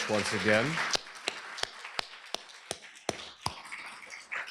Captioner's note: applause